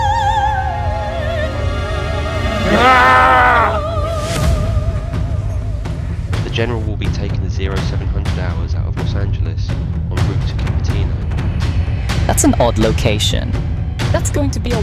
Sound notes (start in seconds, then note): 0.0 opera music; 3.2 general screams